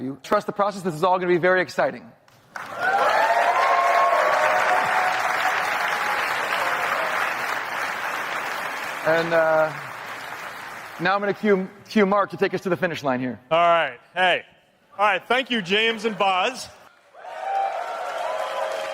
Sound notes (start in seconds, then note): 2.4 applause